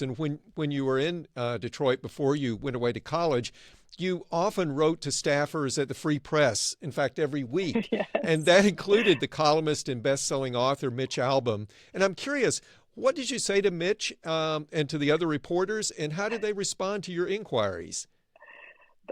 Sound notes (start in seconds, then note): 8.8 laughs